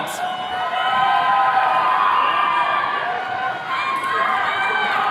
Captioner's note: attendees cheering